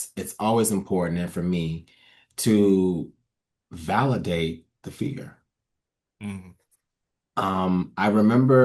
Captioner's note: nods and hums in agreement